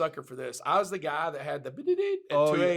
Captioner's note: beep